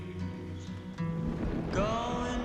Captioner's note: thunder rumbles